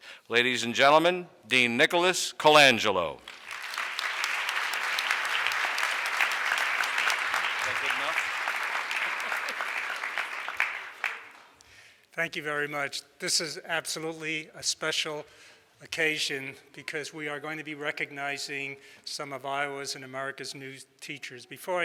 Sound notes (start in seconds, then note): 3.2 audience applauds; 8.0 off microphone